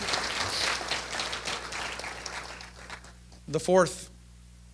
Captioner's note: applause